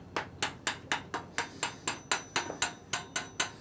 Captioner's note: metallic clattering